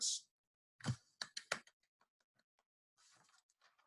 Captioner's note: claps